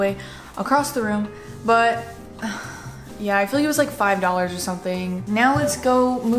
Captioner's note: sighs